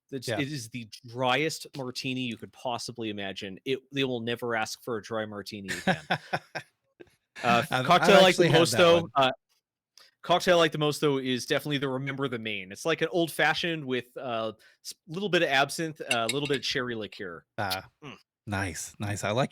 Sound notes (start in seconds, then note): 7.4 laughing